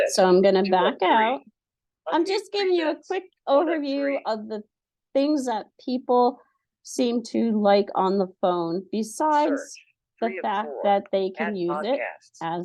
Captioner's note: laughing